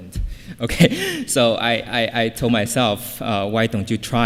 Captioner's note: laughs